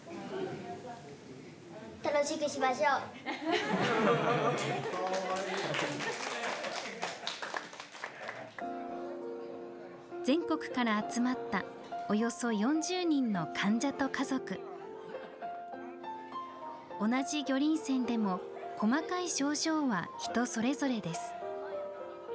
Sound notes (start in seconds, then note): 3.2 laughter; 4.5 applause